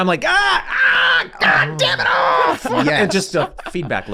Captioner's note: Glenn screaming